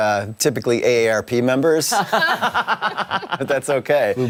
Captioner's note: laughter